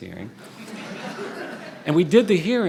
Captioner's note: audience laughing